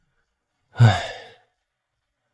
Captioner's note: sigh